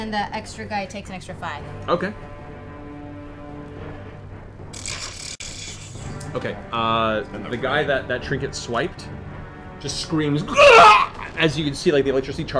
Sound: pained scream

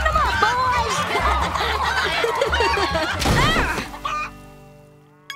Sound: laughing and clucking

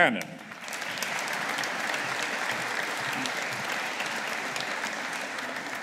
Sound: audience applauding

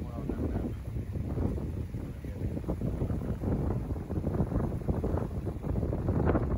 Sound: wind

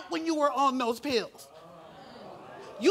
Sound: audience ohs

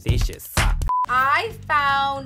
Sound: screen beeps

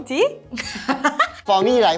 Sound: very guilty laughter

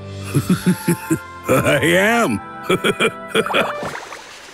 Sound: laughing

